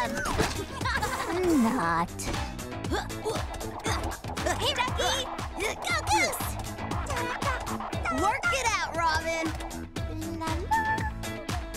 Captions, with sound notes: Not. (grunting) - Hey, Ducky! Go, Goose! (humming) - Work it out, Robin! (humming)